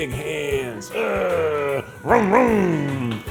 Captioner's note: groaning